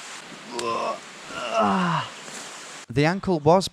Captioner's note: groaning